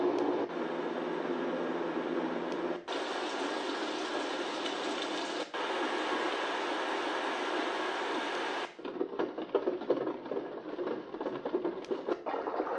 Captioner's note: white noise